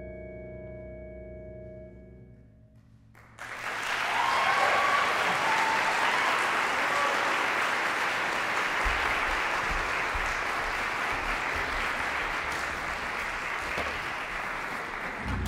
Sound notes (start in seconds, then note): 3.1 applause